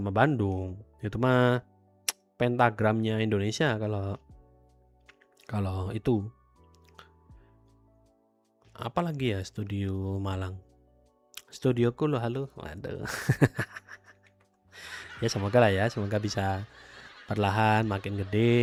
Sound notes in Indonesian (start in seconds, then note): 13.1 tertawa